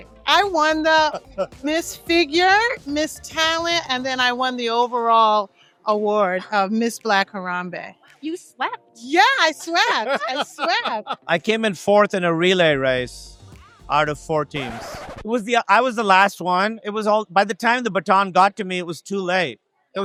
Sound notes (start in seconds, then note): 9.5 man laughs